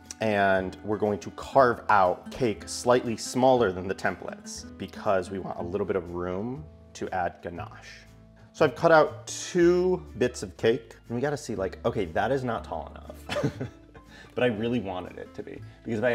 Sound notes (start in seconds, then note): 13.2 giggles